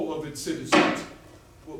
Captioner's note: gavel